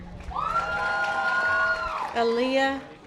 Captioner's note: audience applause